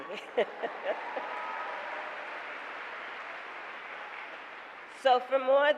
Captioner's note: laughs; applause